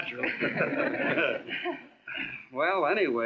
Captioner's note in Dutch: lachen